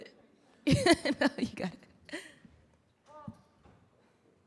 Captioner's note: laughing